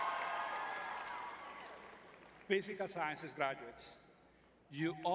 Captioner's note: crowd cheering